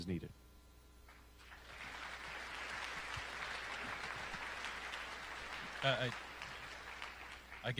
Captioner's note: applause